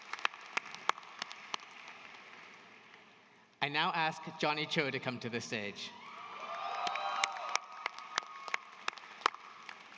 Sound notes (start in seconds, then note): 0.0 applause